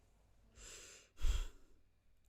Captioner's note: deep sigh